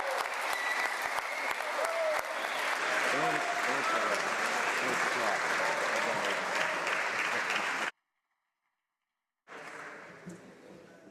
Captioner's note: applause